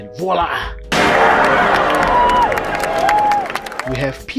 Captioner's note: PS2 intro happy noises